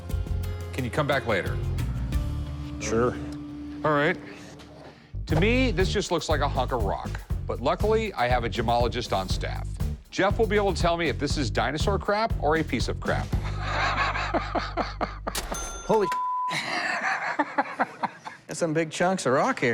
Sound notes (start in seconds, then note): 13.4 laughs; 15.3 cash register ring; 16.5 laughs